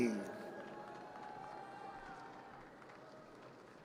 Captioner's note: audience cheers